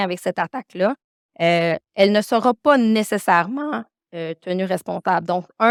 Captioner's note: continues speaking French